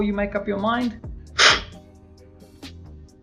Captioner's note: slurping